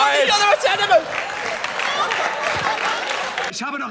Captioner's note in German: Gelächter